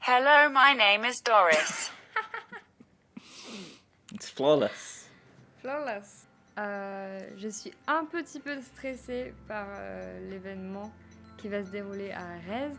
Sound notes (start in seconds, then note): 4.4 laughs; 6.3 speaks French into translator